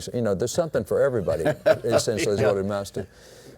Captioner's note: laughs